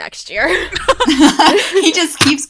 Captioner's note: hosts laugh